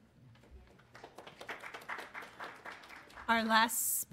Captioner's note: applause